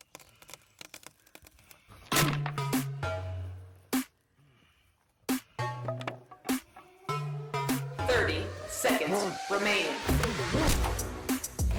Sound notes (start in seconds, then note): 0.0 wood splintering; 1.8 wood snap